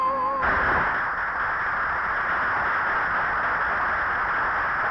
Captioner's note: audience applauding